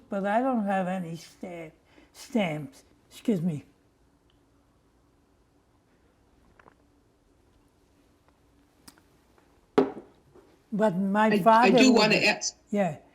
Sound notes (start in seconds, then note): 4.8 drinking